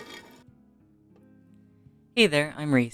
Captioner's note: stone scraping